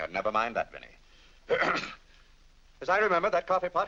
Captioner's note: clears throat